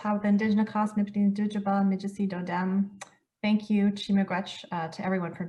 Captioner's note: speaking French